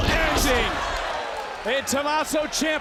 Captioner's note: audience gasping; body thudding